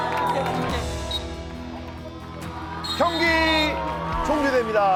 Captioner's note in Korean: 호루라기 소리